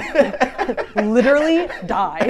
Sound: all laughing

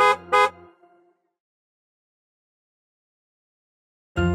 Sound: horn honks

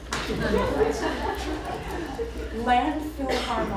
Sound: laughter

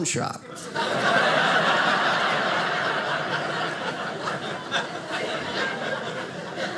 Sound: audience laughing

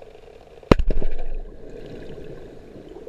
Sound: explosion

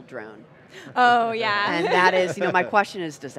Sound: laughing

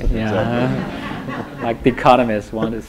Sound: laughter

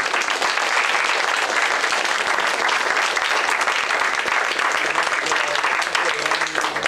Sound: applause

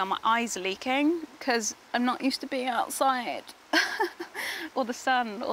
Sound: laughs

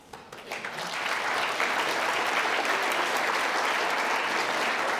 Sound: audience applauding

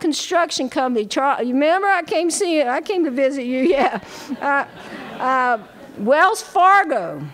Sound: laughter

